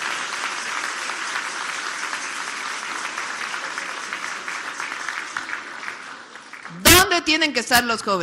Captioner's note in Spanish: aplausos